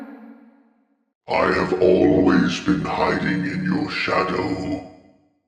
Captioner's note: deep, Rumbly Voice